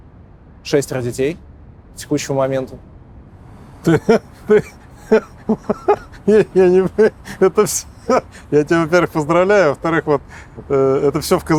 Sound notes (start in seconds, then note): 3.8 laughing